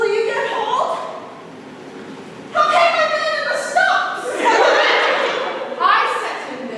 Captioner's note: laughter